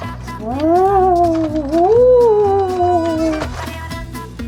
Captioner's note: ghostly sounds